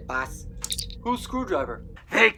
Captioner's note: communicator chirp